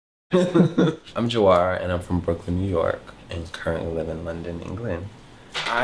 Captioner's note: laughs